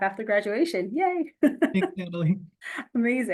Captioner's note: chuckles